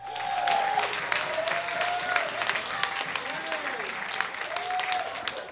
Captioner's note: audience claps and cheers